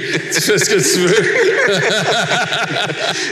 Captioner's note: laughs